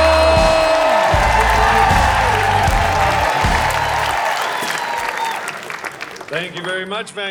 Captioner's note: audience cheering